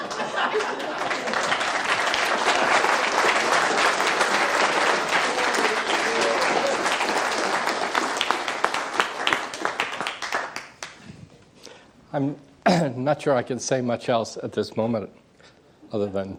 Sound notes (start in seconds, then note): 0.8 applause